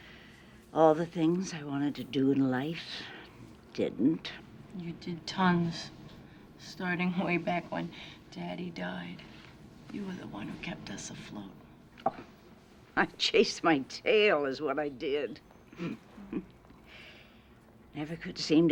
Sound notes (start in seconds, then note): 15.8 chuckles